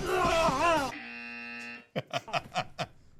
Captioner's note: intense music; groans; buzzer buzzes; laughs